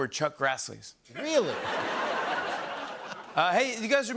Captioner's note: laughter